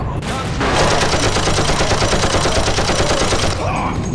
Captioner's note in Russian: нетронутый machine_gun.wav